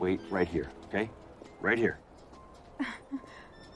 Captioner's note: chuckling